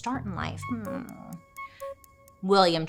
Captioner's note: clock ticking